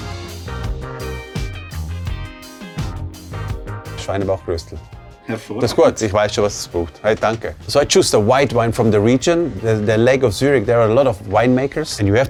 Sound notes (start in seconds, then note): 0.1 upbeat music; 4.0 speaking foreign language